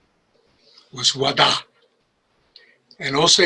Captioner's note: speaks in Osage